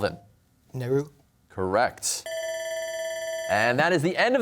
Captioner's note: bell ringing